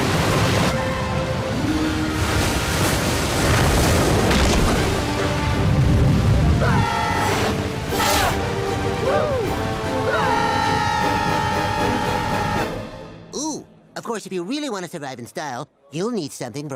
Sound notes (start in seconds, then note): 6.6 screaming; 10.0 screaming